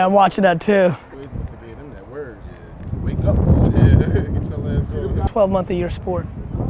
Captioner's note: wind drowns out speaker